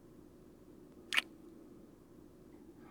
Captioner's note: kiss